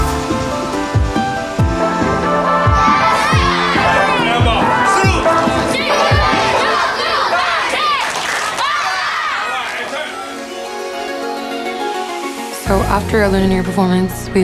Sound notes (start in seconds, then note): 2.7 children shout in Mandarin; 4.6 man speaks in Mandarin; 6.2 children shout in Mandarin